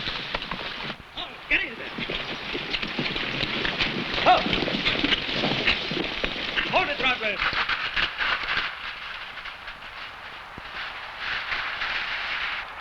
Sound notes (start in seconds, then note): 0.0 horse hooves pattering; 4.2 man shouts